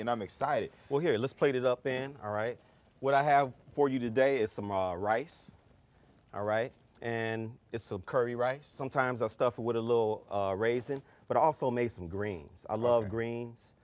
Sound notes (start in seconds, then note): none